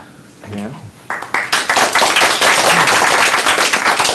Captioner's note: applause